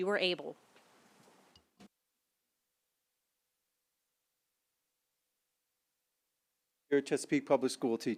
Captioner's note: silence